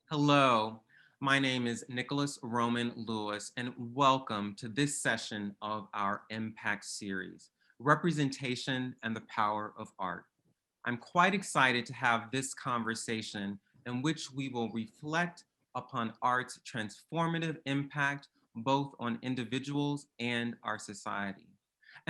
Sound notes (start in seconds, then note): none